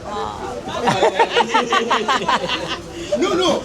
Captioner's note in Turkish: kahkaha